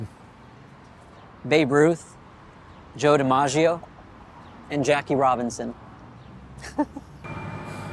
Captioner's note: chuckles